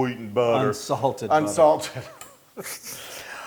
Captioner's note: laugh